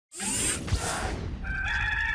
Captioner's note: machine whirring; gamecock crows